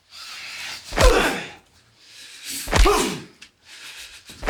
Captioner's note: punches thudding